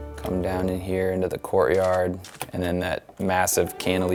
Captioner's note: glass shattering